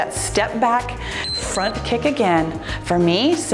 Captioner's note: timer beeps